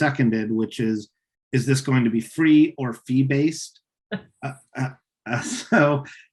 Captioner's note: chuckles